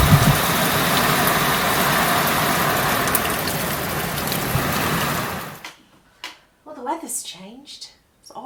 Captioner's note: sound of rain